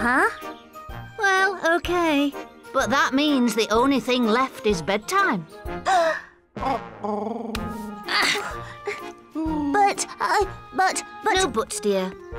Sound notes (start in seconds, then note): 5.8 gasps